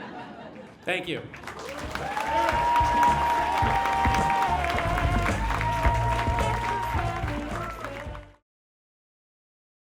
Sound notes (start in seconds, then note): 3.6 applause